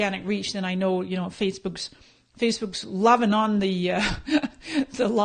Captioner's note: laughing